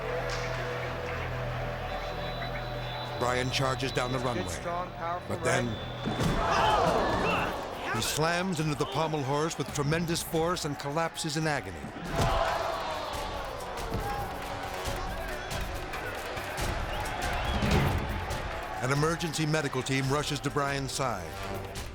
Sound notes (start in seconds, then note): 0.2 tense music; 6.0 impact pounds; 11.9 crowd gasping; 13.1 impact pounds; 16.7 dramatic music